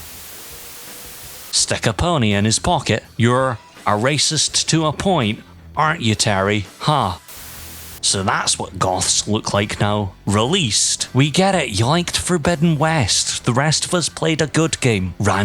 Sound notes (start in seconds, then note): 0.0 white noise; 7.3 white noise